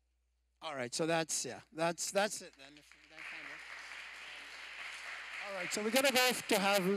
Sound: applause

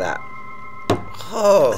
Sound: hand thudding on table; groaning

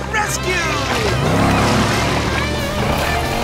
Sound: engine revving

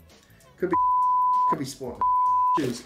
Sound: beep

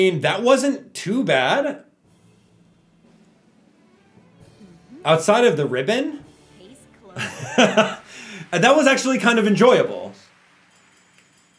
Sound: chuckle

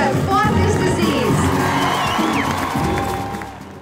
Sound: cheering

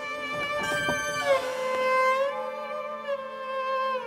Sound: doors creaking

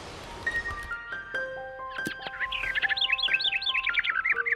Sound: bird chirps

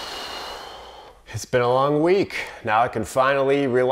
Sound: sighing

